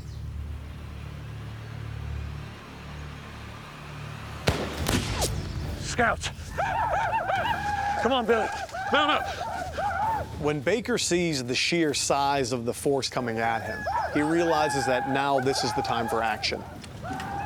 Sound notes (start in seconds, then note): 4.4 gunfire; 5.8 war cries